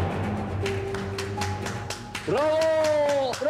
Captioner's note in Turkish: Alkışlıyorlar